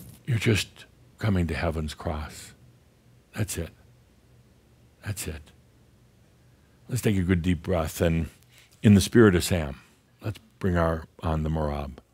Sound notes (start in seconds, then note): none